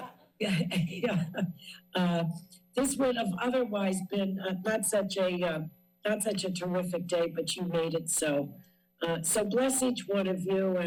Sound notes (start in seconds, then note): 1.1 laughs